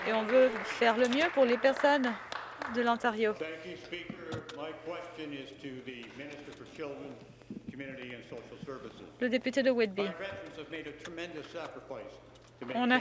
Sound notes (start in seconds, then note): 2.7 some Applause